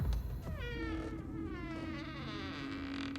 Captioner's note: door creaks